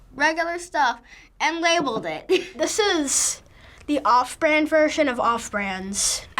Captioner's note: chuckles